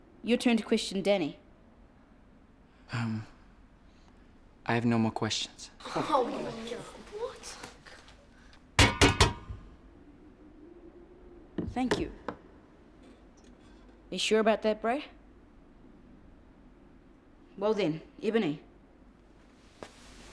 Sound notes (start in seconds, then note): 6.1 grumbling; 8.8 banging